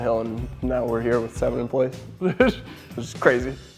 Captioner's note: laughing